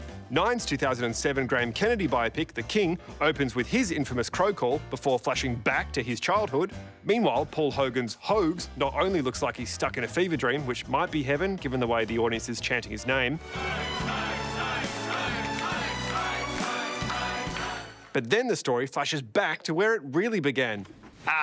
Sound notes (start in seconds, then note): 13.5 chanting